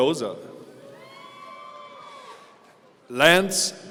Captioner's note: audience cheering